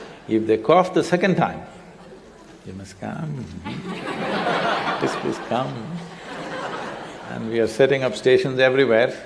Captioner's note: laughter; laughter